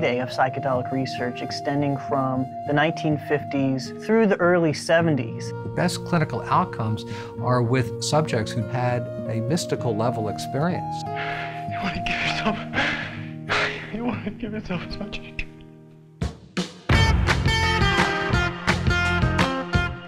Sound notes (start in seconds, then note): 11.0 sobbing; 16.6 upbeat music